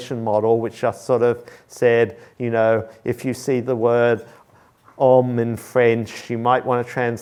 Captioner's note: french